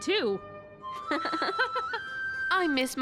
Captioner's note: giggling